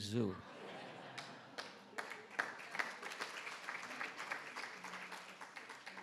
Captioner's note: attendees laughing and clapping